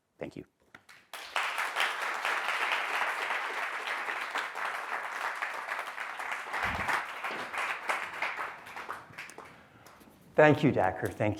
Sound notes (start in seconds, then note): 0.8 applause